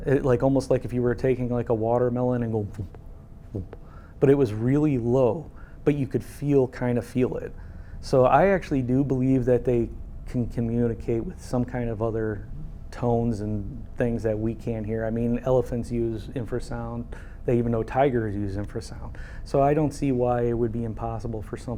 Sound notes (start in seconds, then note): 3.6 imitates thumps